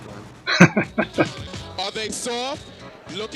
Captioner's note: chuckling